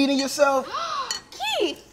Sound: gasps

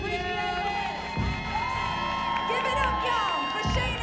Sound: audience cheering

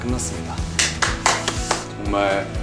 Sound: round of applause

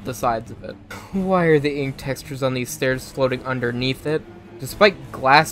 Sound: sigh

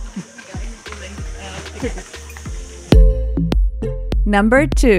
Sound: murmurs

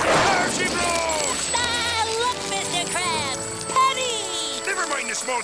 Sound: laughing

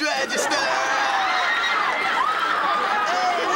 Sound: screaming

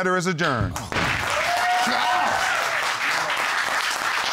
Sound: audience applauding

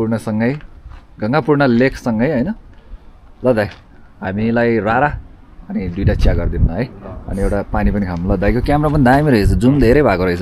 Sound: foreign speech

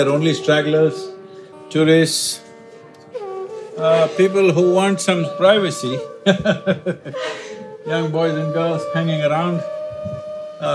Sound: laughs

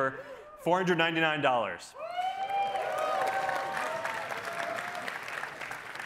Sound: cheering

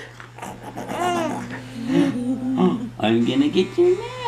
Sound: playful growling

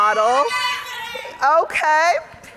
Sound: audience shouting

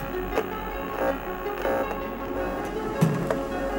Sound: suspenseful music; electric fizzing; suspenseful music

